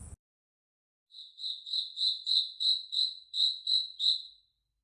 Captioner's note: cricket sounds